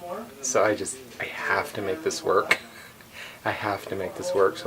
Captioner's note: laughing